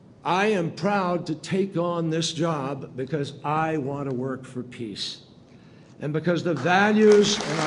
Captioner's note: applause